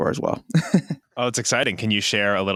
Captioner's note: laughs